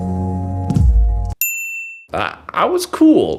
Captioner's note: ding